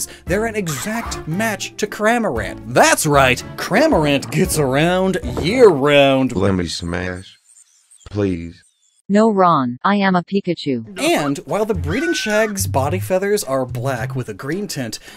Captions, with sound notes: They’re an exact match to Cramorant. That’s right, Cramorant gets around year-round - [Masculine robotic voice] “Lemme smash? Please?” [Feminine robotic voice] “No, Ron, I am a Pikachu!” And! While the breeding shag’s body feathers are black with a green tint,